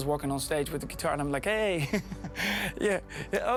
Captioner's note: laughing